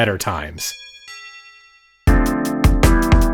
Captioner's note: doorbell dinging; upbeat music